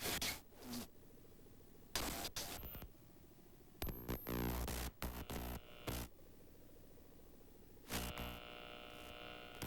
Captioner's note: static